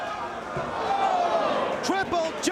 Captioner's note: spectators exclaiming